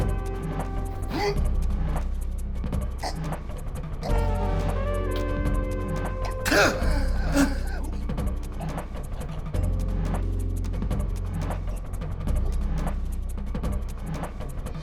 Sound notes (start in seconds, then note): 6.2 Larson gasping; 9.2 suspenseful music